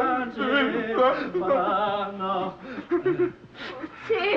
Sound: Hans crying

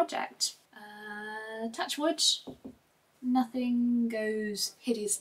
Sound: knocks on door frame twice

